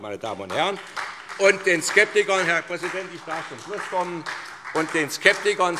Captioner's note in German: Beifall SPD